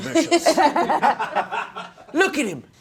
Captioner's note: laughing